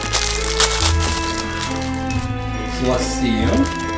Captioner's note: wrapper crinkling